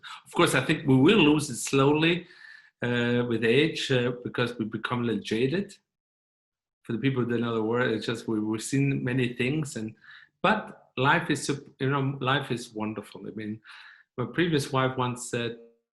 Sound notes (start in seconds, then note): none